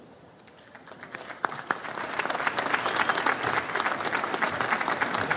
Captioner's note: audience applauds